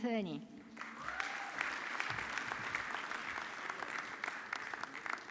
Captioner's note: audience clapping